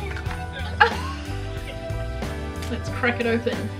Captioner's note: laughing